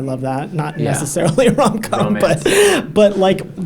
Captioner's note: laughs